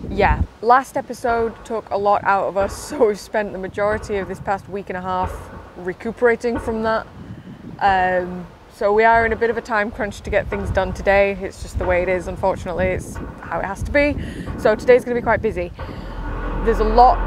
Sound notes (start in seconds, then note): 7.2 clanging Continues; 17.0 loud, Groaning, Metal Scraping Noise